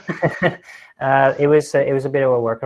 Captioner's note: laughing